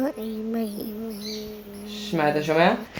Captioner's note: humming